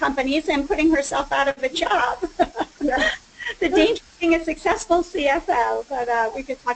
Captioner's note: all laugh